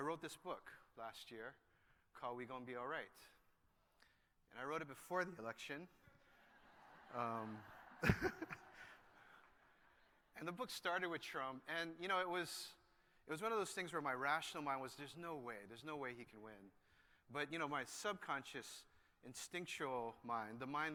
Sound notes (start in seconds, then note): 6.2 laughter